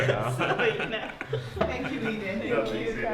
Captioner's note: laughter